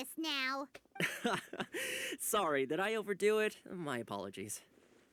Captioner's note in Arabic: يضحك